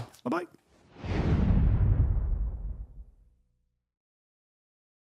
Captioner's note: air whooshing